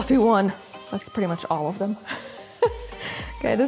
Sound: giggling

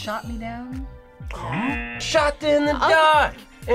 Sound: audio buzzes

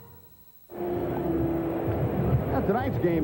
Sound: ambient ballpark noise

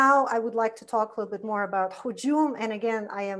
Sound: foreign language

